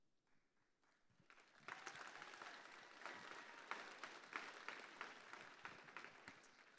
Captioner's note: applause